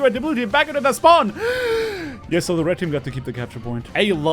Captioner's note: inhales deeply